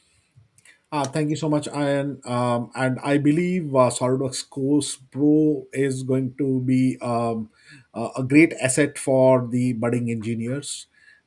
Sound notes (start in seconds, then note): none